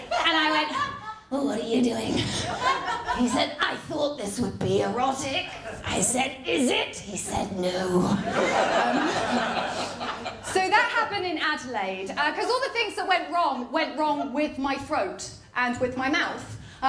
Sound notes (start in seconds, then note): 8.2 laughter